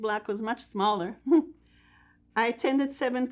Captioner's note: laughing